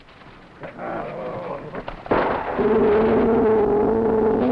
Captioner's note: jaguar growling